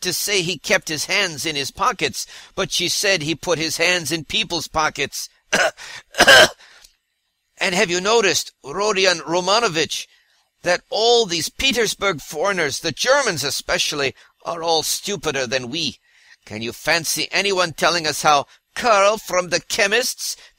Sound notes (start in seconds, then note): 6.0 cough-cough